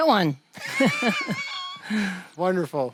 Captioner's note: both laugh